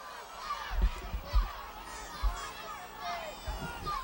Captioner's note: audience shouting